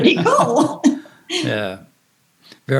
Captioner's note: laughs